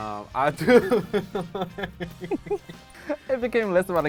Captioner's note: laughing